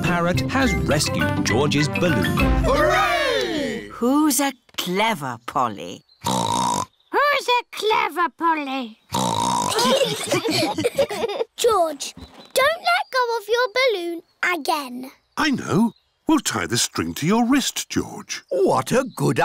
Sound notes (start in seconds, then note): 2.6 all cheer; 6.2 snorts; 9.1 snorts; 9.7 laughter